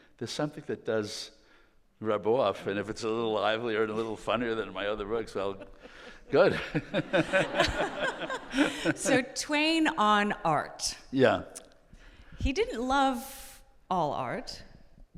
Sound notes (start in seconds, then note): 6.8 all laughing